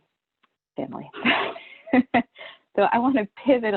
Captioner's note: chuckles